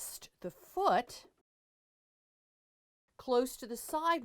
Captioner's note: no Sound Present